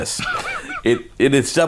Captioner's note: chuckles